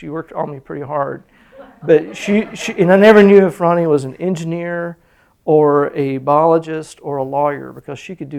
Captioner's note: laughter